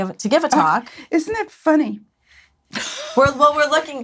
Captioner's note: laughs